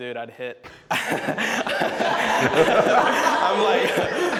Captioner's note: participants laugh